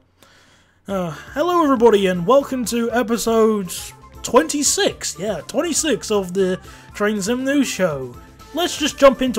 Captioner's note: sigh